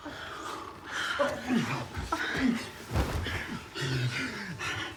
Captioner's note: grunting